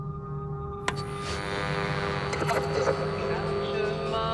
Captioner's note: radio crackles